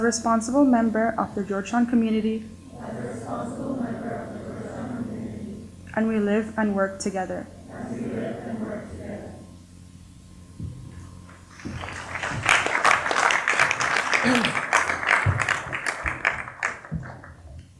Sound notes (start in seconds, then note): 11.4 applause